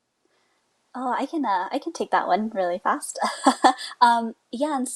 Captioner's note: laughs